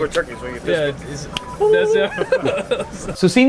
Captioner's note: laughing